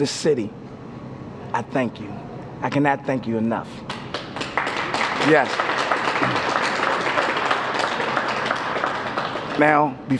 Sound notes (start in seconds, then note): 5.6 applause